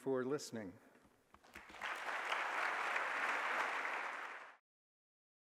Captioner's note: applause